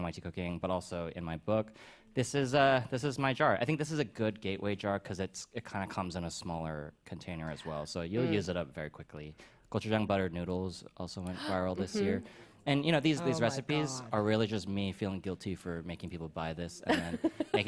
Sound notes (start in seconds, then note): 11.3 gasps; 16.9 laughs